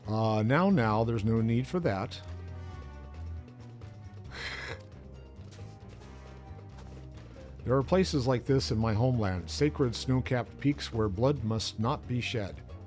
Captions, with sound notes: Now, now, there's no need for that. [chuckles] There are places like this in my homeland. Sacred snow-capped peaks where blood must not be shed.